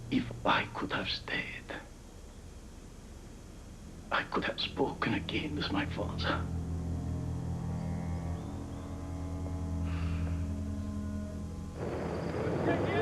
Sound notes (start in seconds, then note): 9.8 sighs